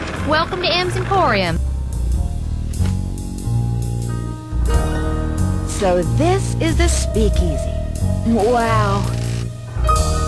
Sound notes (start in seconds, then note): 2.6 paper rustles